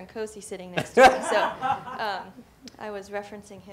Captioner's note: laughs